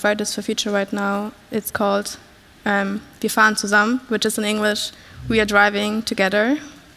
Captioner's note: foreign language 00:32:50